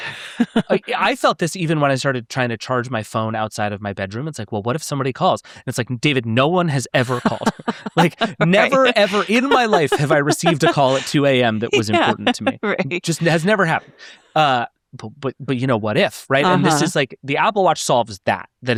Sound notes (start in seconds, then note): 7.1 laughing